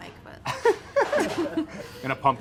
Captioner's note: laughs